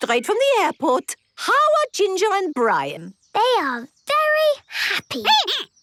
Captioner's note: squeaking